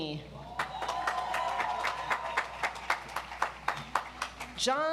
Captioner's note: audience applauds